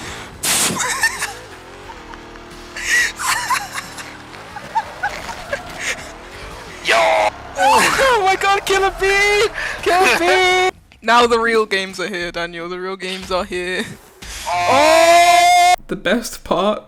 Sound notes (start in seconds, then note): 0.7 laughter; 2.9 laughter